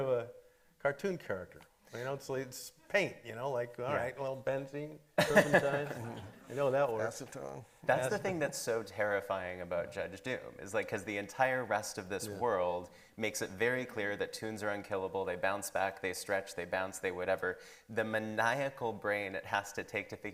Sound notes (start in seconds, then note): 5.2 everybody laughing